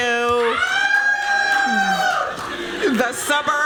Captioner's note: cheering